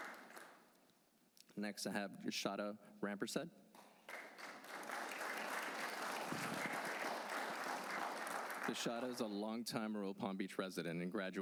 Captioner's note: applause